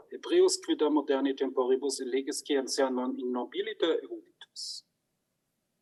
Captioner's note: speaks in foreign language